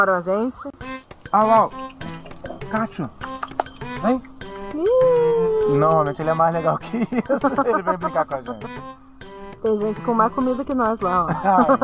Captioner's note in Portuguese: risadas